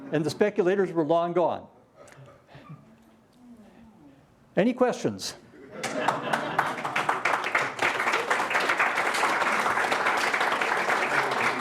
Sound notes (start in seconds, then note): 5.6 laughter; 5.8 applause